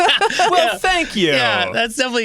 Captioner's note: laughing